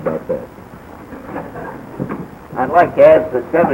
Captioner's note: laughter